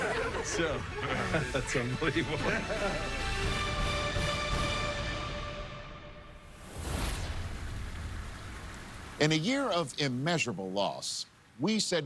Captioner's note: laughter